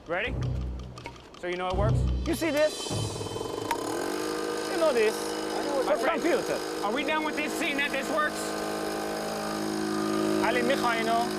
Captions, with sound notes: READY? SO YOU KNOW IT WORKS. YOU SEE THIS? [ MOTOR WHIRRING ] YOU KNOW THIS. IT'S A COMPUTER. ARE WE DONE WITH THIS, SEEING THAT THIS WORKS? [ SPEAKING FOREIGN LANGUAGE ]